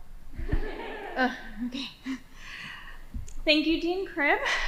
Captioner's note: laughing